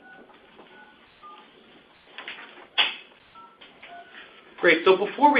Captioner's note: silence